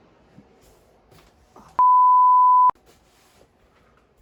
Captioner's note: whispering